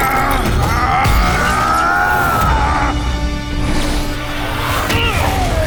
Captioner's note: crying out